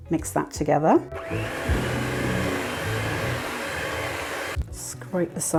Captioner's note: mixer hum